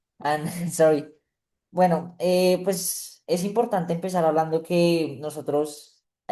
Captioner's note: speaking spanish